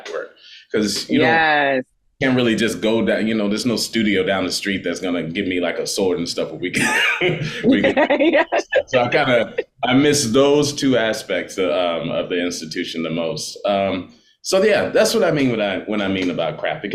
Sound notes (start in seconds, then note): 6.7 laughing